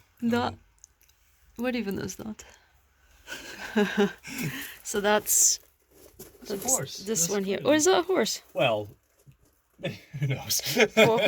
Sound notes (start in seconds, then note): 3.3 both laugh; 9.9 laughs